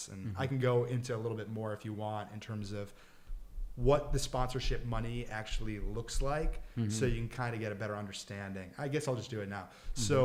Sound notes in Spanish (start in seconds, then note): none